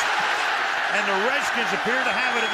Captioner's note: cheering